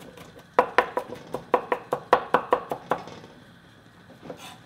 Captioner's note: knife chopping